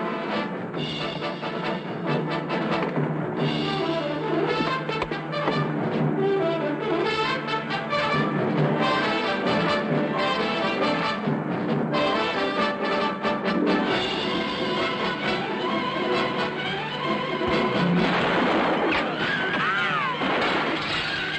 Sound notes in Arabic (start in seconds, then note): 0.1 موسيقى درامية; 17.8 طلق ناري